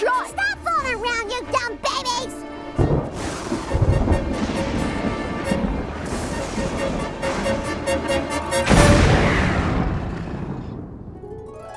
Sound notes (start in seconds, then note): 2.6 thunder clapping; 2.9 dramatic music